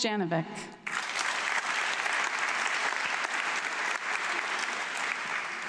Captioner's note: audience clapping